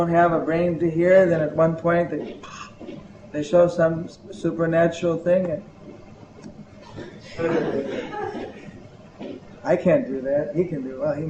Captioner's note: laughter